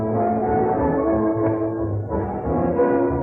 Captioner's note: slap